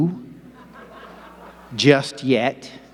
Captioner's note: audience laughing